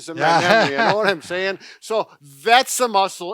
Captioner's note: laughs